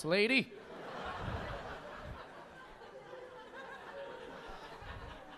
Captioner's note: audience laughing